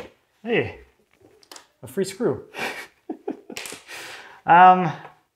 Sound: laughs

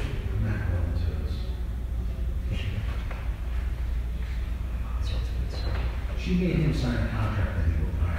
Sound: whisper

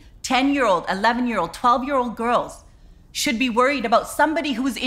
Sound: none

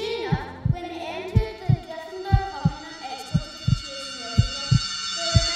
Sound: ringing noise as Chloe begins to panic

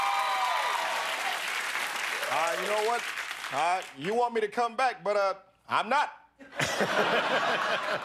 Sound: cheers and applause

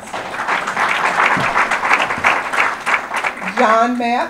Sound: audience applause

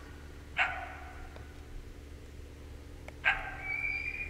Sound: coyote barks

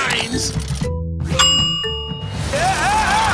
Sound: ding

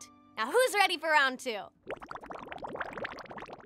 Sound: bubbles popping

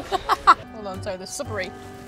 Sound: laughing

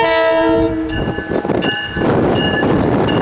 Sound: bells ringing

